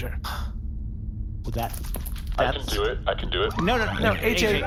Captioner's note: sighs